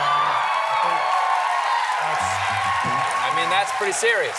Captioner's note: cheering